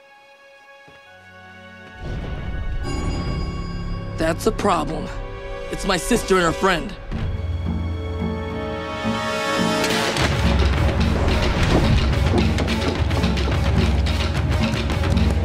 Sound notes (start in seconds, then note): none